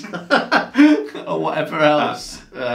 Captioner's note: both laugh